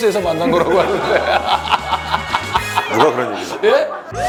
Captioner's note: bwahahaha